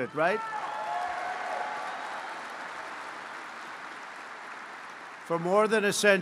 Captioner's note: applause